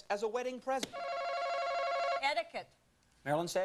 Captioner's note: alarm rings